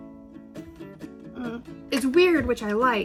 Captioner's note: grunts